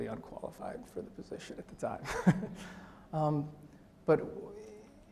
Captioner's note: laughs